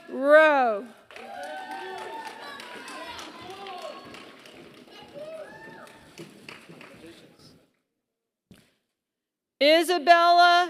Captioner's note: applause